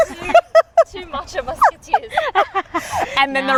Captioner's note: laughs